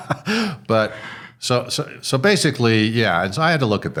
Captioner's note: chuckling